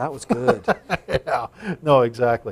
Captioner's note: laughter